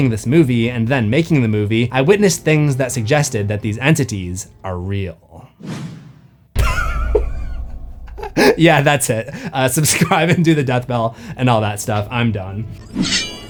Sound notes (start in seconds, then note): 6.6 pause, then burst into laughter; 8.0 still laughing